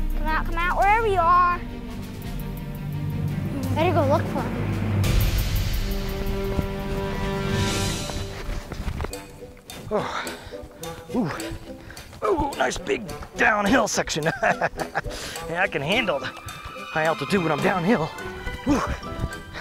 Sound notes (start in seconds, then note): 5.2 dramatic music; 11.1 grunts; 13.6 laughs